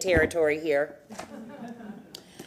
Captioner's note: laughter